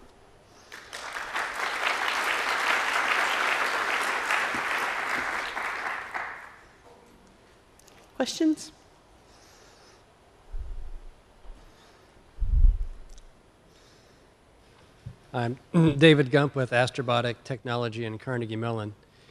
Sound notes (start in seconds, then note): 0.6 applause; 7.0 silence